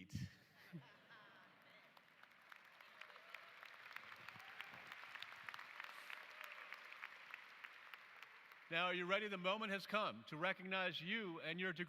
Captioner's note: applause